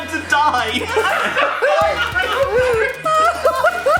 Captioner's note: all laugh